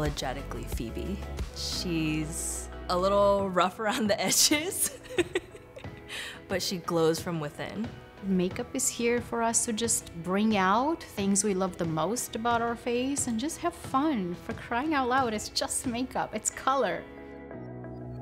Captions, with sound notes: - She's a little rough around the edges, (laughing) but she glows from within. - Makeup is here for us to just bring out things we love the most about our face, and just have fun. For crying out loud, it's just makeup. It's color.